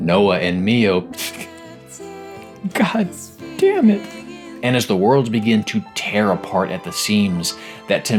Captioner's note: almost crying